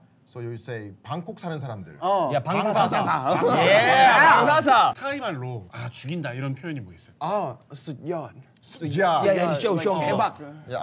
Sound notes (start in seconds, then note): 7.9 in Thai